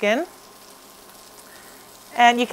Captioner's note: fish sizzling